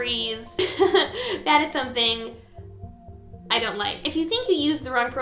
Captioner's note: uncomfortable laughter